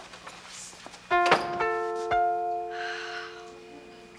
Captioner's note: school bell ringing; Ethan sighs